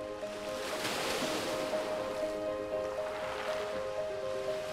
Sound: light piano music; water splashing

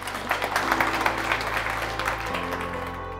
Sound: applause

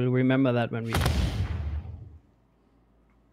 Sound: booming sound

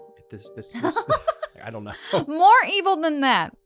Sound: laughing

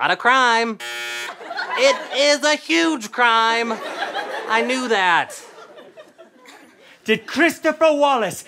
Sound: buzzing

